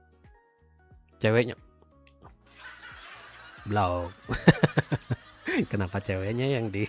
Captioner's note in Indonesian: tertawa